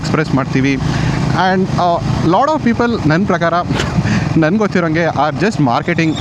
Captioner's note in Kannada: ಗಂಟಲು ಸರಿಮಾಡಿಕೊಳ್ಳುವಿಕೆ